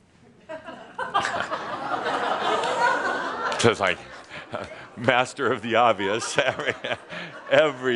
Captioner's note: some laughter